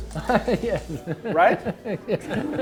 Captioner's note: laughs